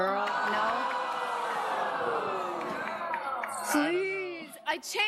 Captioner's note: audience groans